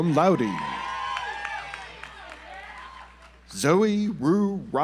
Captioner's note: audience applauds